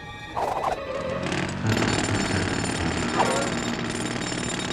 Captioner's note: jackhammer hammering